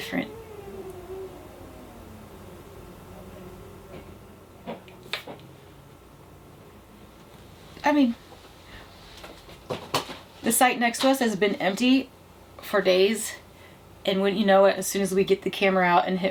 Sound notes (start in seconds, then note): 0.0 humming sound; 4.4 thumping footsteps